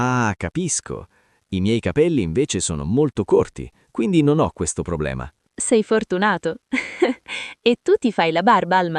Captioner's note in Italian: risate